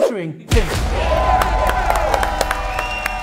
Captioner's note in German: Jubel, Applaus